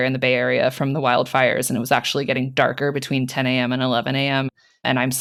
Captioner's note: none